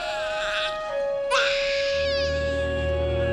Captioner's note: baby continues crying